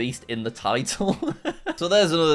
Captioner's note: laughing